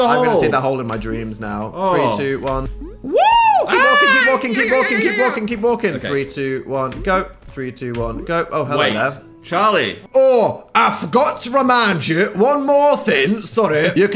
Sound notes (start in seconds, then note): 3.1 shrieks